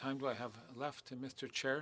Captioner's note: speaking French